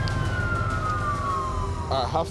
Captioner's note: sirens